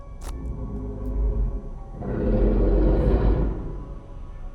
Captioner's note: Bigfoot growling